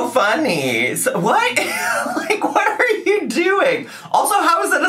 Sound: laughs

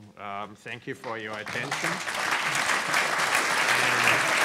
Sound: clapping

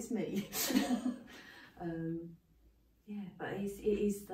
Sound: laughing

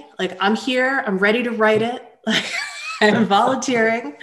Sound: chuckles

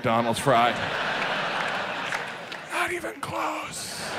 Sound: audience laughs

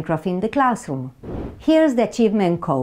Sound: slide whooshes

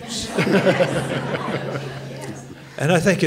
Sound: laughter

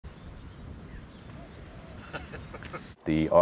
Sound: birds chirping; laughs

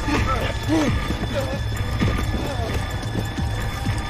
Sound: scared whimpering

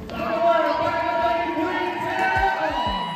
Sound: audience cheering; announcer bellowing

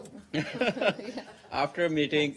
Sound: laughter

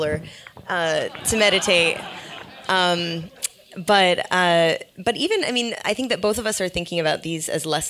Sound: laugh

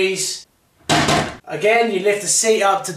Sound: toilet seat bangs

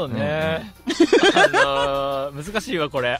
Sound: Ayu laughing

